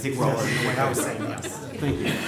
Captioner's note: laughter